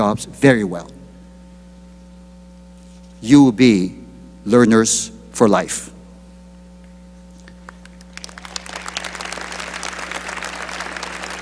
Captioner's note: applause